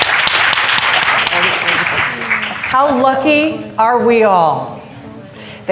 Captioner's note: applause